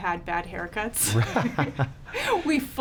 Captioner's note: laughing